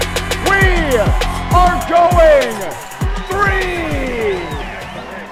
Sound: crowd cheers; upbeat hip hop music

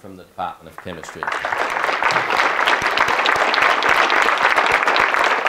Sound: audience clapping

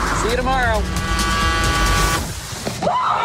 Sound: truck horn blares; screams

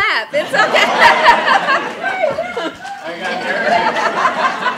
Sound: laughter

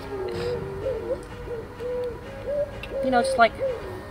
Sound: laughing; owl hooting

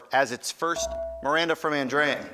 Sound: ding

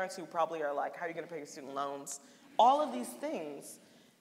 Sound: none

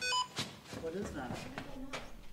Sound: phone beeps

